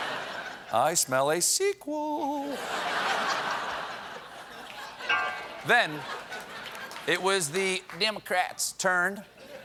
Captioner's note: laughter